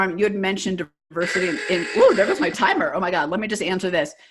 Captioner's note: loud ringing